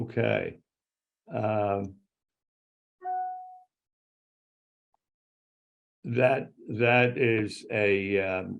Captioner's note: an electronic tone